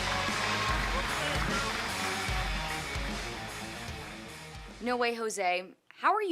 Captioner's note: cheers and applause